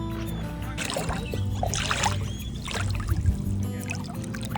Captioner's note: water splashing